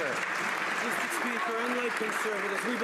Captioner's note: some Applause